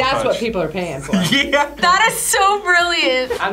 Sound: laughs

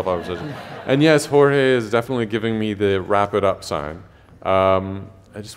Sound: laughter

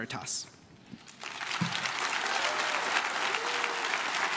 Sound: crowd claps

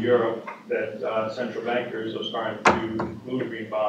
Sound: off mic

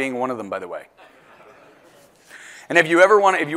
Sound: laugh

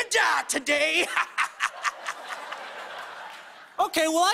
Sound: laughs maniacally

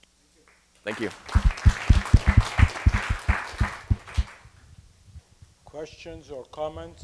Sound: applause

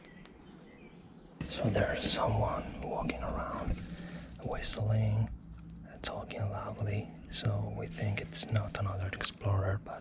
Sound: whispering

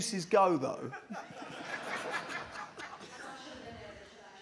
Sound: laughter

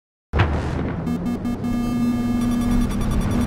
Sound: boop boop boop boop boop boop

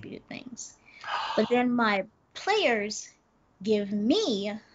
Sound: Brennan gasps

